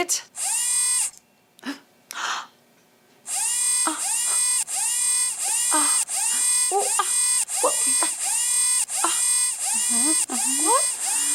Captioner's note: robot noises continue